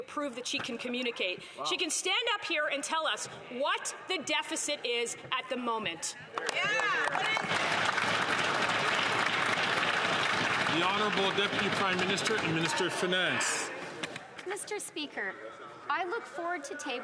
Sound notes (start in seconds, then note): 13.1 some Applause